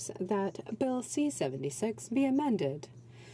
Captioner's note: speaking French